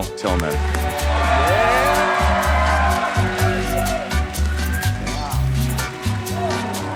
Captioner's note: audience cheering; upbeat music